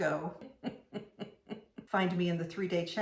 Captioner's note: woman chuckling